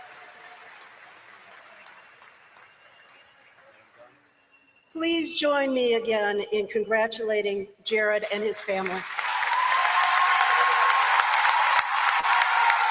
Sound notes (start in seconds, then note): 8.6 applause